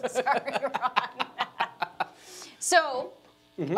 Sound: laughing

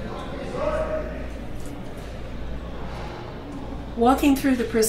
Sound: background noise of prison

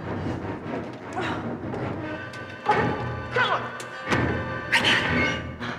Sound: grunts

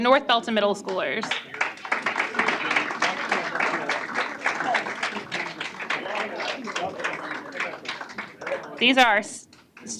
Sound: applause

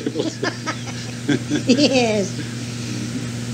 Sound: laughs

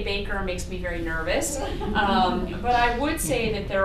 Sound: laughter

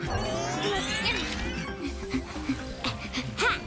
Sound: chiming

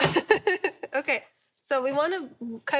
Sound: laughing

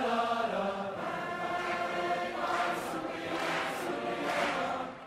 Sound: people clapping rhythmically

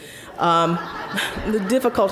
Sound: audience laughing

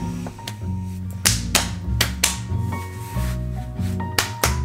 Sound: hands slapping

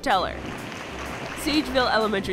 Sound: claps

